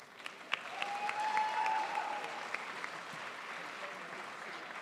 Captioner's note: crowd applauds